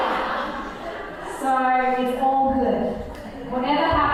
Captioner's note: laughing